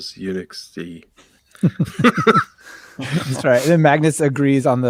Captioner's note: laughing